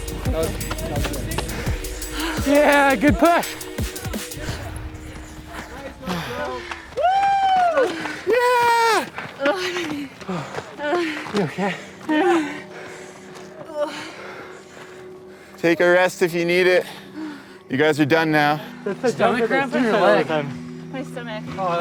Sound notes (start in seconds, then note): 6.6 clapping; 7.6 gasping